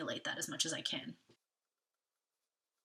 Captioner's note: no sound